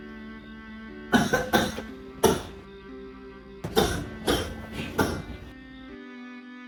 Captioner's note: cough worsens severely